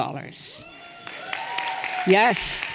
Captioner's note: everyone cheering and applauding